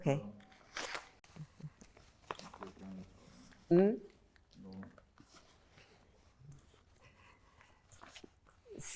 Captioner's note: pauses 8 seconds